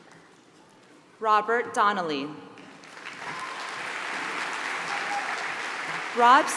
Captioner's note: applause